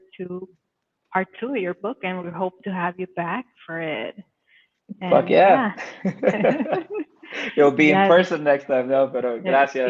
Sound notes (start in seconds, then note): 5.8 ladies laughing; 8.9 speaks Spanish